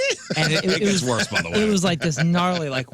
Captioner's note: laughing